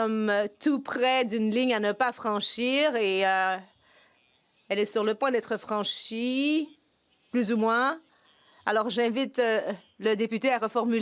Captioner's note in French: voix de l'interprète